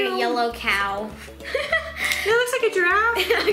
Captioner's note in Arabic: يضحك